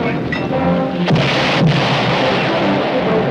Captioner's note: explosion